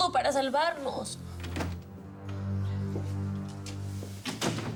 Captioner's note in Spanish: Sonido de puerta al abrir